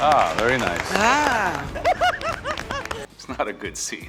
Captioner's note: contestant laughs